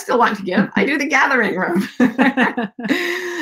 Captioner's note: laughs